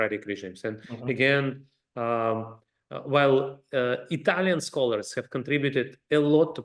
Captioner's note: laugh